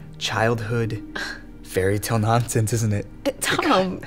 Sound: huffs

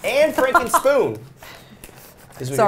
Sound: laughs

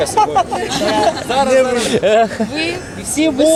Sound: all are laughing

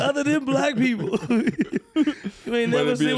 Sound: chuckles

